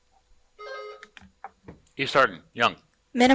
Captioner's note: buzzer buzzing